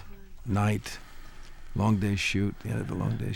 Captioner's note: labored Breathing Continues